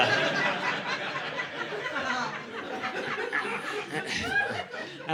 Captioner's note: laughter